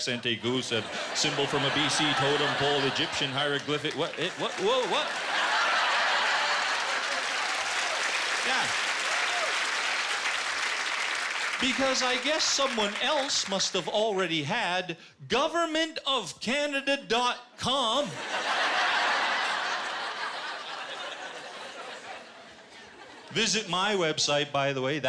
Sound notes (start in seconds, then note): 5.3 laughing and applause; 18.0 laughter